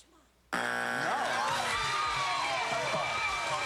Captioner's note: cheers and applause